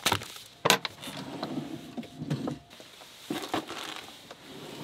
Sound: rice packages rustling; drawer clicking

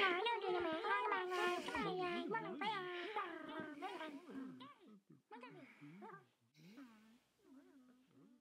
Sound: critters yelling and mumbling; critters’ mumbling slowly calms and quiets

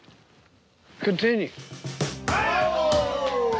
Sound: cheering

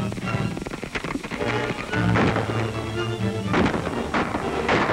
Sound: gun shots

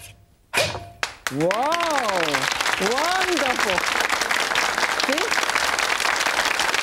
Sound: audience clapping

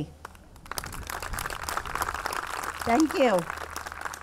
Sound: audience clapping

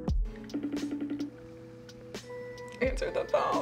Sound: phone ringing

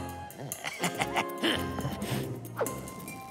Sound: chuckles

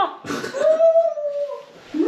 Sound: funny noises; mimics funny noises

